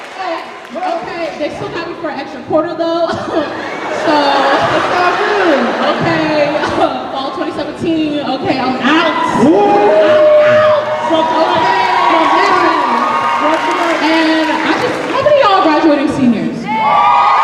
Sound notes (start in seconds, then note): 0.0 cheering; 3.1 laughter; 11.6 cheering; 16.6 cheering